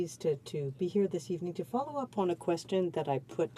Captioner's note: speaking french